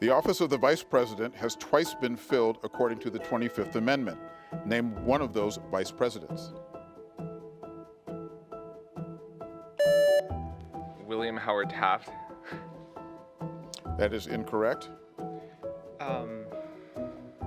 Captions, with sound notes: The office of the Vice President has twice been filled according to the 25th Amendment. Name one of those Vice Presidents. (contestant beeping) - William Howard Taft. - That is incorrect.